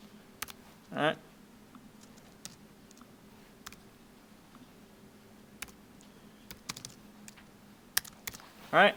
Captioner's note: clicking Sounds